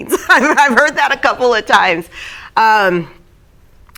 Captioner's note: laughing